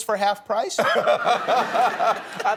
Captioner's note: laughter